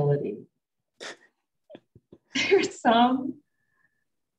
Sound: both chuckling

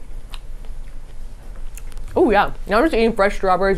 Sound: Safiya chewing loudly

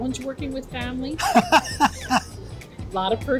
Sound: laughs

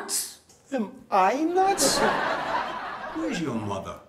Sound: audience laughs

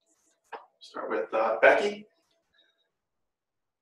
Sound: male Voice

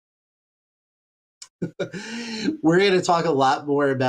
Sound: laughs

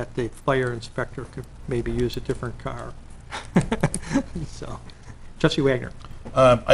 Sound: laughing

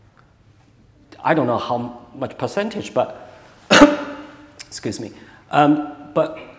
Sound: coughs

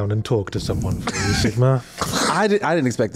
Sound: chuckles

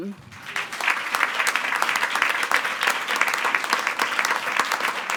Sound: attendees applauding

